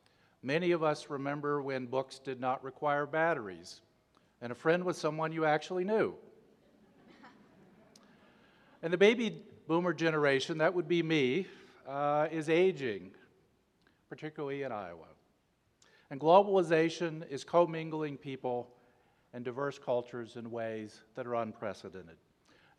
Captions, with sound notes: Many of us remember when books did not require batteries, and a friend was someone you actually knew. (polite laughter) And the Baby Boomer generation, that would be me, is aging, particularly in Iowa. And globalization is commingling people and diverse cultures in ways that are unprecedented.